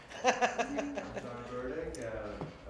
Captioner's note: laughter